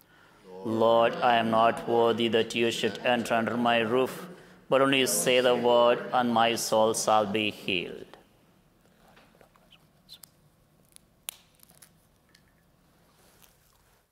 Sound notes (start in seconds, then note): 9.1 whispering